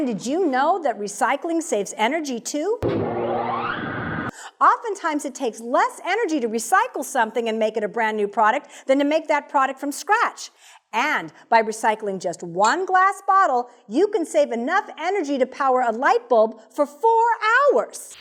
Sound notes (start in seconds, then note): 2.8 sound electric motor